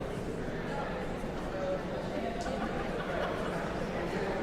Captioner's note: audience chattering